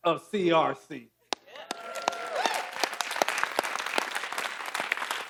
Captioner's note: audience applauding